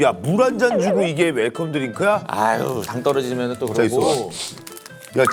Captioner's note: grumbling